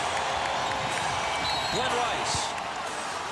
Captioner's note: whistle blows